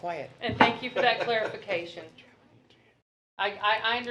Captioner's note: male laughter